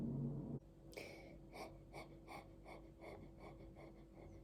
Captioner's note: gentle steady breathing